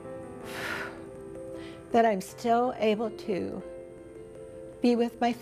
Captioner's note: exhales